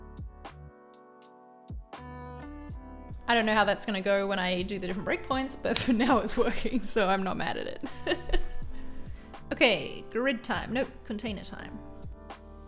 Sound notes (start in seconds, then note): 0.1 gentle music; 7.5 laughs